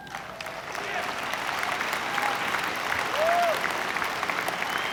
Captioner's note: audience applauds